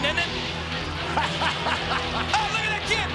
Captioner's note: Vince laughs